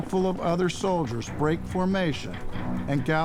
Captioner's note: hooves pounding